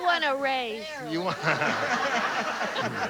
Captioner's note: laughs